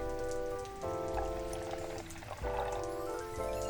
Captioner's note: tea gurgles